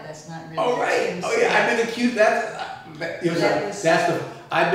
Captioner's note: stuttering